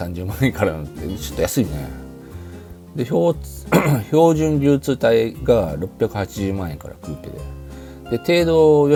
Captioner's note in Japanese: 咳払い